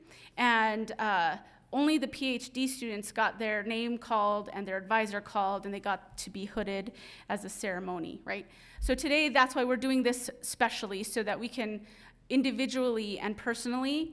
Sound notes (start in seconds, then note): none